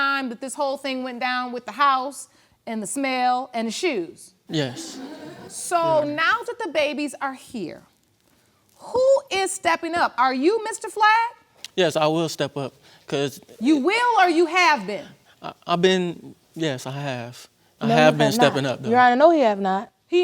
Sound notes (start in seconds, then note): 4.5 audience laughs